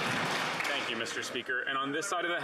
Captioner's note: some Applause